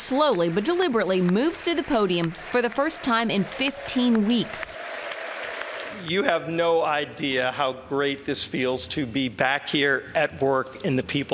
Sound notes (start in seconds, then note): 0.0 cheers and Applause